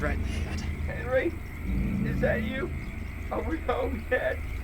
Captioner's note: Ronny’s voice from inside trunk